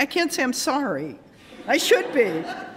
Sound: laughter

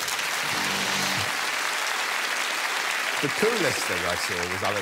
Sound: audience applause

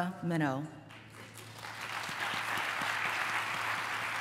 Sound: applause

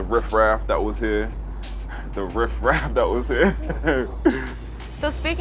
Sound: laughs

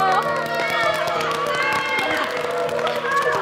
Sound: cheer, applaud

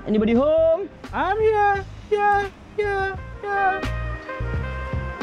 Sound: echo

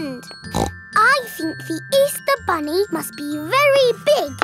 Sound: snorts

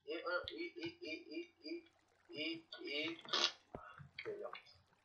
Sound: fart noise

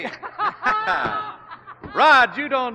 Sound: both laughing

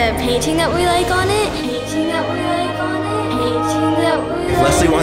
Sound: echoing

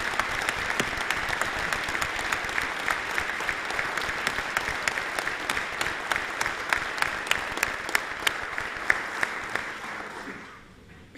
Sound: applause

